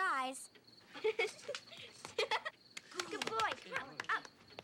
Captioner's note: Caddie giggling